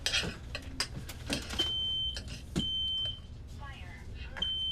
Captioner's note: smoke alarm beeping; automated voice; smoke alarm beeping